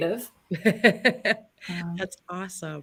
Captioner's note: laughter